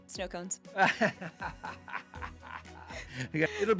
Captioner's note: laughs